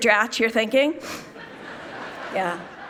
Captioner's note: people laughing